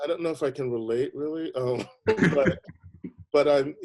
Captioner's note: laughing